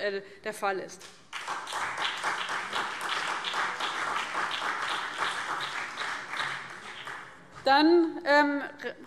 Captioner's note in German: Beifall CDU, BÜNDNIS 90/DIE GRÜNEN und SPD